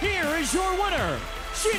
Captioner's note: bell ringing